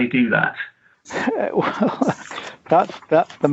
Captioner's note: laughs